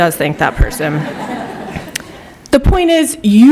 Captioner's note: laughter